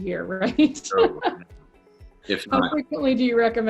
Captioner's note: laughs